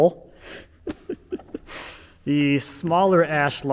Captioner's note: chuckling